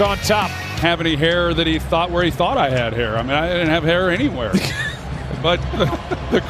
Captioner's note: laughter